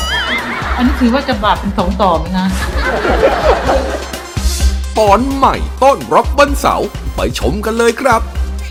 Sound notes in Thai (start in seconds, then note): 2.4 เสียงหัวเราะ